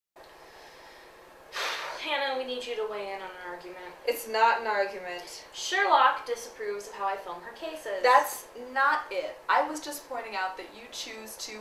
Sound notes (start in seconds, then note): 0.1 sigh